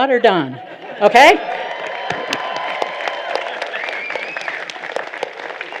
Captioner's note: applause